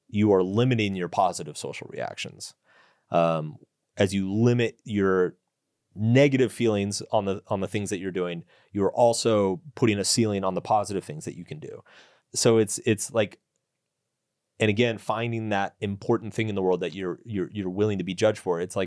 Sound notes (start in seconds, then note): none